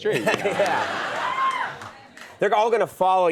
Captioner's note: audience laughs